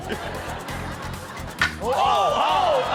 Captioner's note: wood clacks